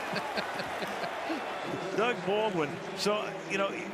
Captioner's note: laughs